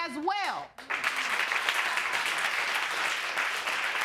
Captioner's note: audience applauding